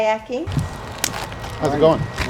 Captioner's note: hands clap